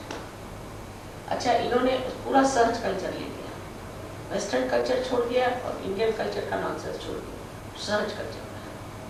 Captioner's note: hindi